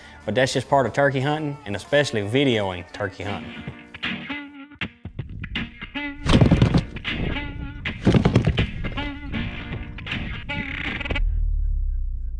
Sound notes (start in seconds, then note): 4.2 light country music; 6.2 plastic rattling